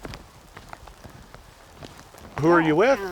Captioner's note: footsteps on mud